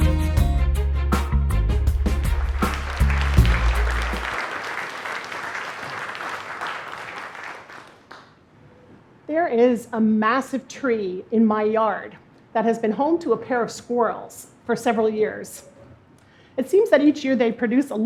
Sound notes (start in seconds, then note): 2.0 applause